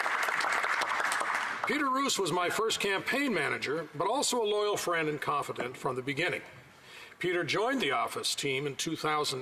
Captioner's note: applause